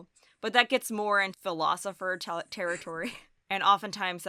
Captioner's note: chuckles